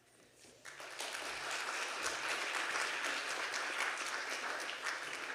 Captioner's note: audience applauding